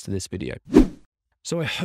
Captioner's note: logo whooshing